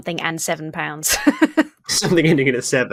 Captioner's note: laughs